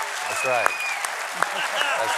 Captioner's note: applause